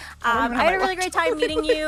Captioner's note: laughs